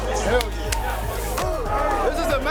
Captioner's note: grunting